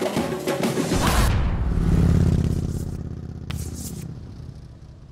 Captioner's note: motorcycle engine revving